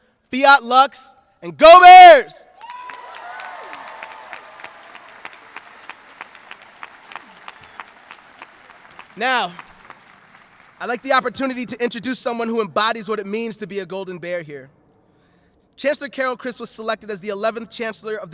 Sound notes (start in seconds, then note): 2.8 audience cheering